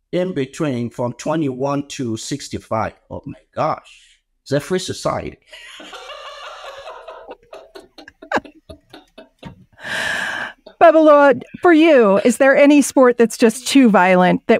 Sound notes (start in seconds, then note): 5.5 laughs